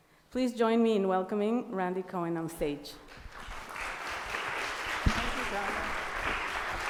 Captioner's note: applause